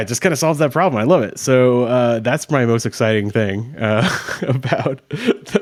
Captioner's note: chuckles